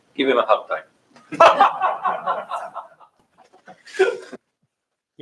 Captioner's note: laughter